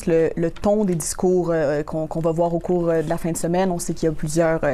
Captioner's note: speaking French